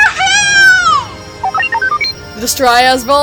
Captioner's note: happy beeps